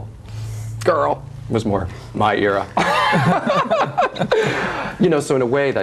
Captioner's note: laughs